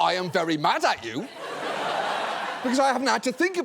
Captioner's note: audience laughing